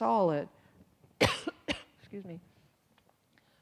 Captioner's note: coughs